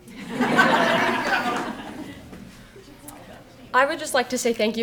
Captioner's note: audience laughing